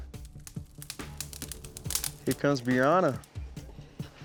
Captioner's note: flames sizzling